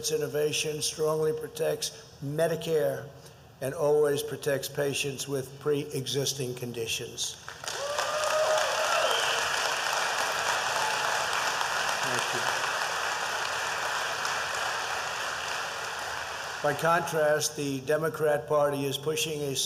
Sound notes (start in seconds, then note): 7.4 applause